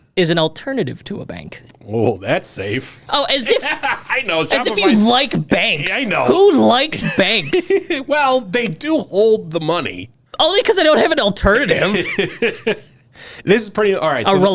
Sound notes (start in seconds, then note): 3.2 laughs; 11.6 laughs